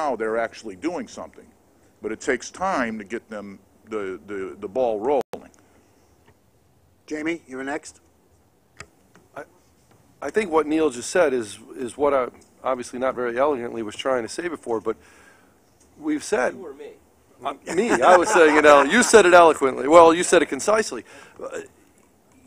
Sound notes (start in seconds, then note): 17.6 laughter